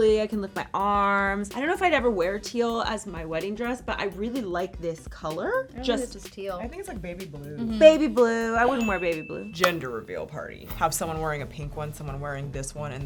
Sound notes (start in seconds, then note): 9.2 gasps; 9.6 hands clap